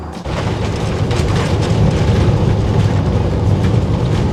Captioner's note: plane engine roaring